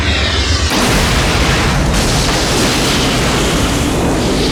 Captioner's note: big Explosion